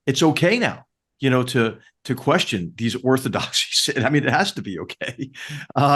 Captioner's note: cough